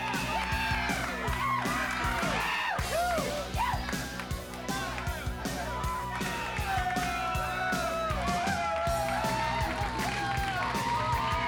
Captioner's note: crowd cheering